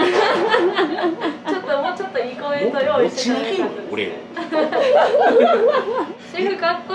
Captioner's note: laughs